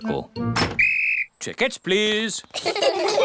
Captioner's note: blows whistle; all laugh